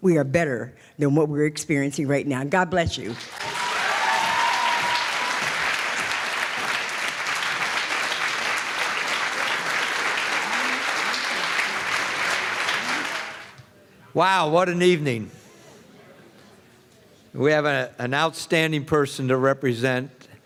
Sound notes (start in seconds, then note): 3.4 applause